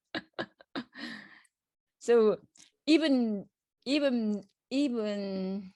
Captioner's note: laughs